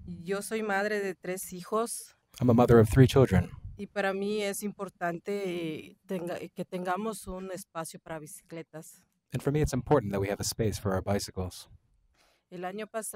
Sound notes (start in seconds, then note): 3.5 speaking foreign language